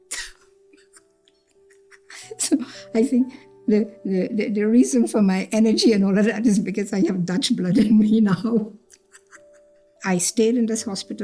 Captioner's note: laughs; laughs